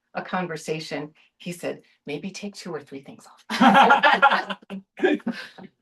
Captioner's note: laughter